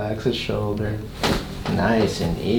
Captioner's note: cracking noise